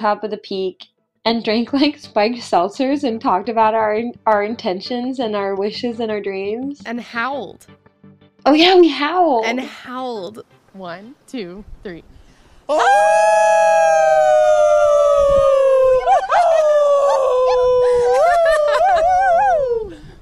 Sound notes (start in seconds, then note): 12.6 hikers howl in unison